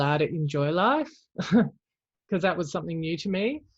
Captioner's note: chuckles